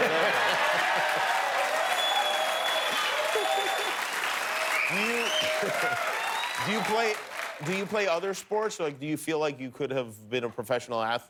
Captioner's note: laughter